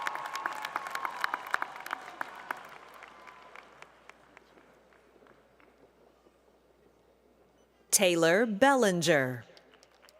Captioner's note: applause